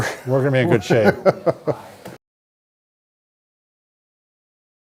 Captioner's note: laughing